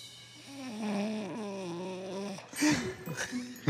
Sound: snores; laughing

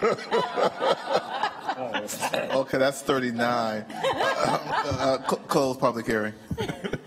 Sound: laughter

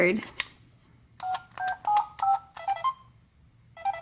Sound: beeping

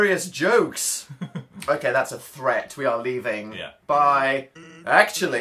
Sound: chuckles

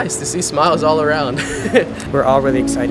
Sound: laughs

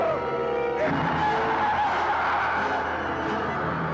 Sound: screams; dramatic music

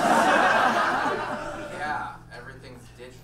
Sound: audience laughs

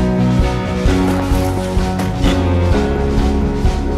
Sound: ice crunching, scrape of metal

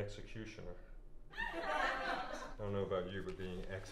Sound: audience laughter

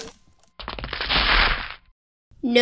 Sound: crack!; crash!

